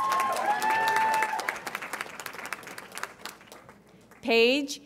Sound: audience applauds and cheers

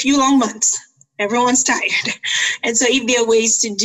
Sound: chuckles

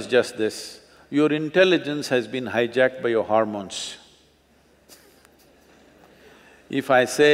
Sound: laughs

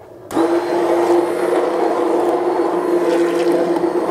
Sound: blender roars

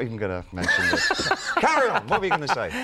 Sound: host laughing

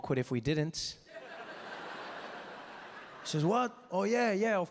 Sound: audience laughing

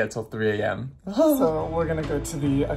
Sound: sobs

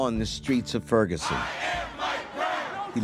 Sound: crowd; voiceover

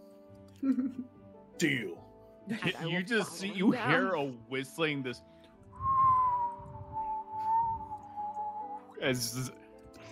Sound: falling whistling sound

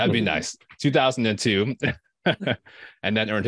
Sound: chuckling

